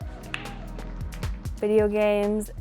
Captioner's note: balls clacking